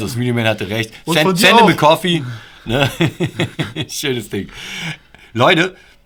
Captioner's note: laughter